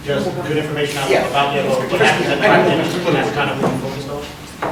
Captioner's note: others talking